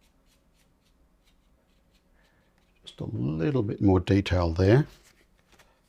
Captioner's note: silence